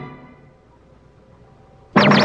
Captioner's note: beeping